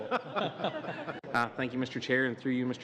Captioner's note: laughter